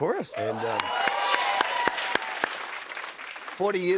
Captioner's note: cheers and applause